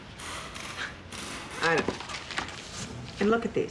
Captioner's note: sighs